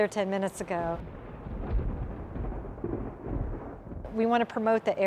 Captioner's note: thunder